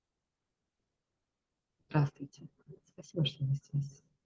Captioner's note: soft pause